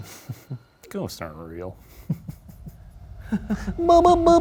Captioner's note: chuckling; Ryan chuckling; chuckling